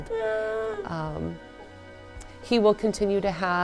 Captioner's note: cooing